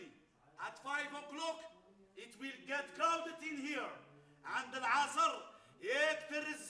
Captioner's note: speaks Arabic